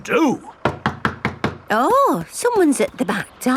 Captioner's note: knocking at door